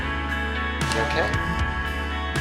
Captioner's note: voiceover